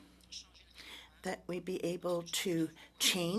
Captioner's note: speaking French